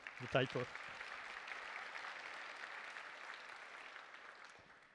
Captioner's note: applause